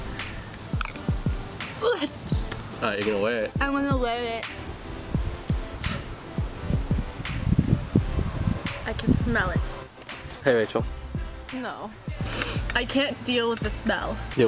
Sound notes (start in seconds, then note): 1.8 gagging